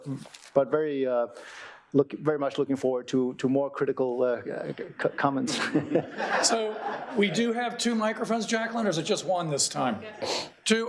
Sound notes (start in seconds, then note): 5.6 audience laughing; 6.1 chuckling